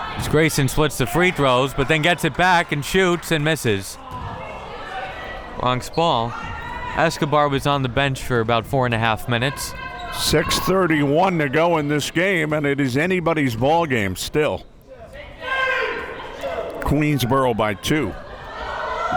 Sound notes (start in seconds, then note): 15.1 crowd members shouting